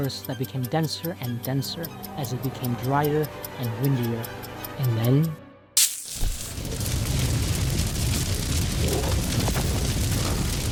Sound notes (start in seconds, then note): 5.8 fire crackling; 5.8 sparking; 9.5 flames roaring